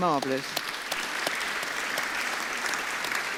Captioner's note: applause